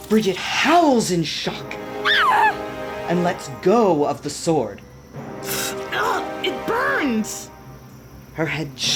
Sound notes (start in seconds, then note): 0.0 something burns and hisses; 2.0 Bridget screams